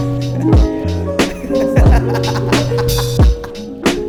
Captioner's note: laughs